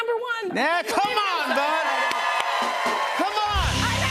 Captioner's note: cheers and applause